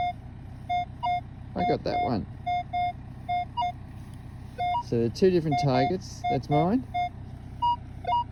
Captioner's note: beep beep